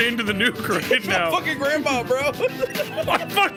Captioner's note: laughs